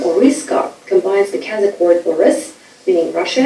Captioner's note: speaking foreign language